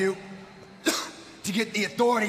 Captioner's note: Seth coughing